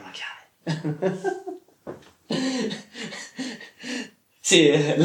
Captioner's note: laugh